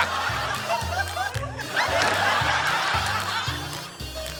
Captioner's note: laughter